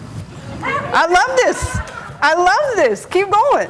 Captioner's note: audience laughing